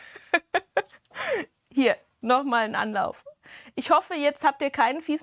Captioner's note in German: gelächter